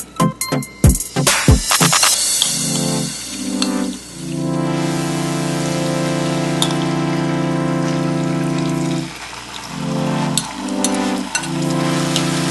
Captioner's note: stir-fry the beef, sizzling sound in the background